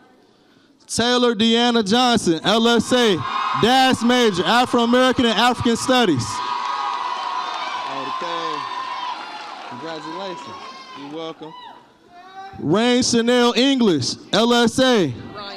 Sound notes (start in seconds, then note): 7.0 audience applauds and cheers